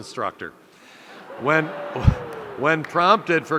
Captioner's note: audience laughing